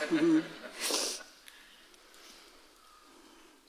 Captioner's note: audience laughing